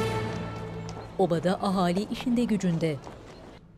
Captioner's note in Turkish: At nalı sesi; Ayak sesleri